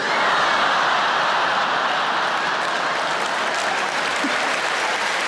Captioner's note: audience laughs and applaudes